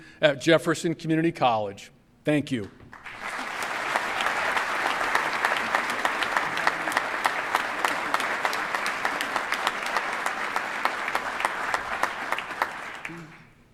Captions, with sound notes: THE MISSION WE PURSUE AT JEFFERSON COMMUNITY COLLEGE. THANK YOU. [APPLAUSE].